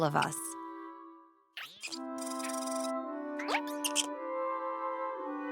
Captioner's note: animal noises